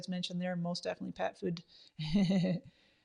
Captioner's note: laughs